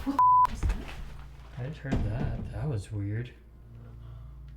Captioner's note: door shutting